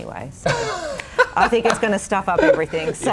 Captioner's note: laughing